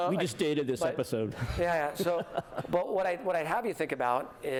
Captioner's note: laughter